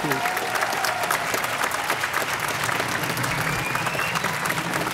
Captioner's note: audience applauding